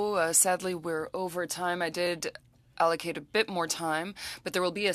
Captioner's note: speaking French